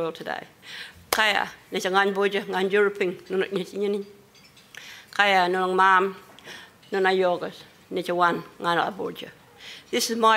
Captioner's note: foreign language spoken